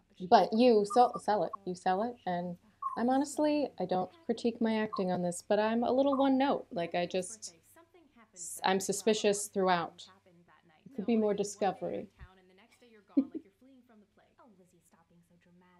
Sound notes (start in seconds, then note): 13.1 laughter